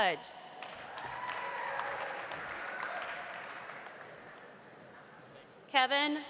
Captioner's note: audience applauding; audience cheering